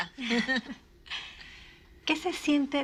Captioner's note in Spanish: Risas